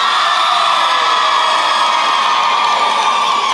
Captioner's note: cheering